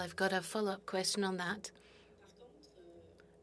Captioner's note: speaking French